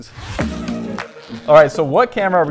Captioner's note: bag unzipping